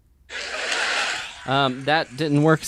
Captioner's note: television audience laughs